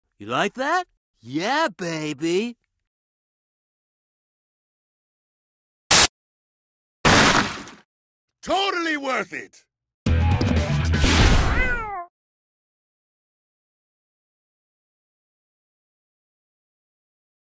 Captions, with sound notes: You like that? Yeah, baby! (static) (clash) - Totally worth it! (cat meow)